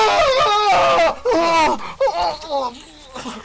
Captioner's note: screams